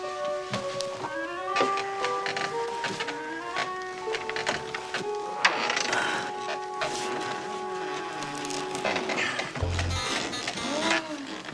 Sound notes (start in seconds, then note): 9.1 sarcophagus lid creaking